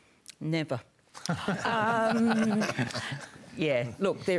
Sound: laughter

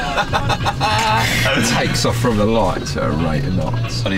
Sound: laughing loudly

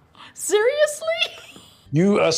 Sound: laughs

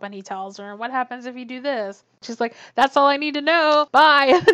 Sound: laughs

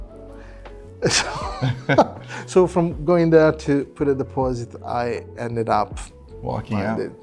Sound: laughs

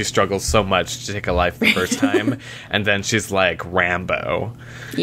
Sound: laughter

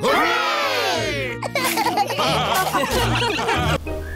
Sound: laughter

